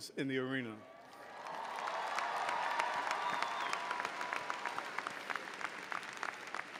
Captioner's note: audience cheering and applauding